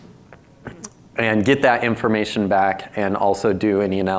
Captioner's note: lip smacks